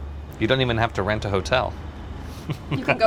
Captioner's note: laughs